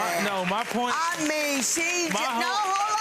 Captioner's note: audience laughing and clapping